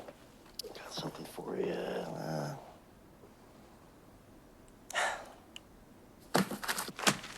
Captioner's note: sighs; papers rip and crumple